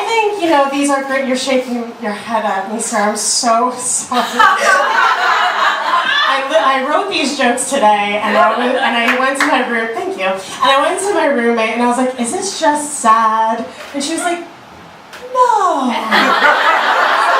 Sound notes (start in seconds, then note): 4.2 audience laughter; 8.4 audience woos; 16.0 audience laughter